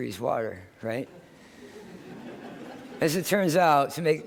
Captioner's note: laughter